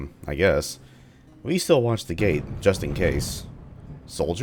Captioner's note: thunder